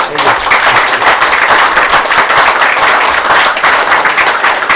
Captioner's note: applause